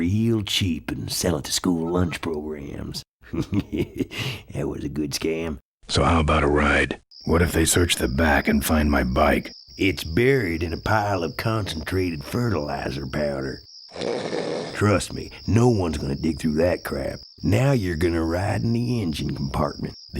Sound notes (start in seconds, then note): 13.9 snorts